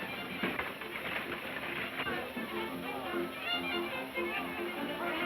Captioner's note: people chattering